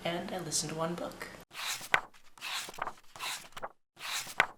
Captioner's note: pages turning